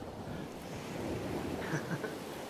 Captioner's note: ocean wave sounds